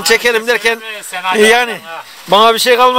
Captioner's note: rain sound